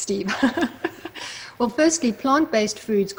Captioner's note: laughs